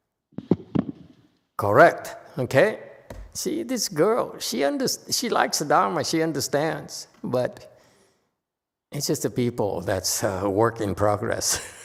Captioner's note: laughs